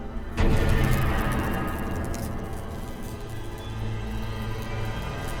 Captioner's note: dramatic music; electricity buzzing